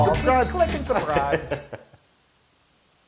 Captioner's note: laugh